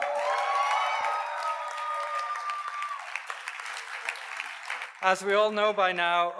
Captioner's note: audience cheers and applauds